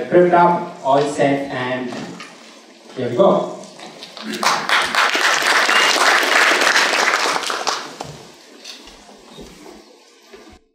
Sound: applause

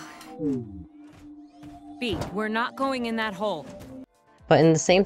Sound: sighs

